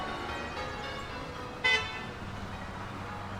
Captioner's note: horn beeps